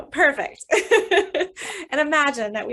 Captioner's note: laughs